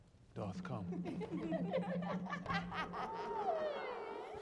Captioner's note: women laughing